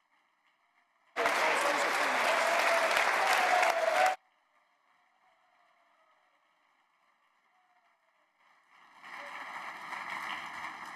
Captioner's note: applause